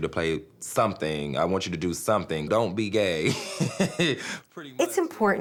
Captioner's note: laughs